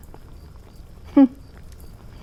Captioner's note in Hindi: हंसते हुए